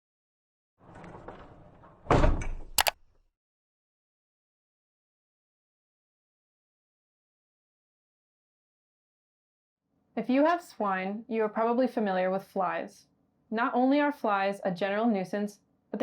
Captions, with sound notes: (latch clicks) - If you have swine, you are probably familiar with flies. Not only are flies a general nuisance,